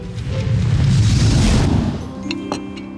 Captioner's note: whooshing